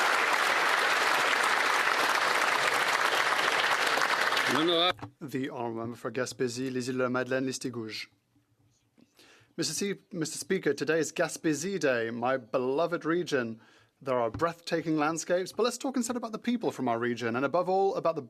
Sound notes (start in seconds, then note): 0.0 applause; 9.6 speaking French